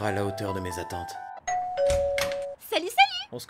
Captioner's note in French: Ding Dong